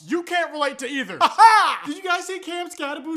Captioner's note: weird laughing